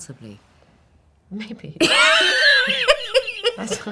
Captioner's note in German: lacht